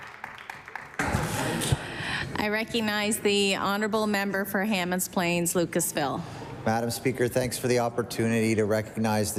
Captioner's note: applause